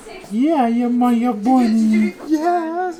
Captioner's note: baby mumbles; grandma baby talking